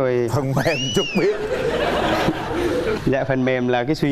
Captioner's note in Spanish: risas